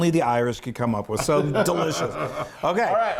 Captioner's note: laughing